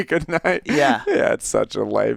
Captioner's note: Joel laughs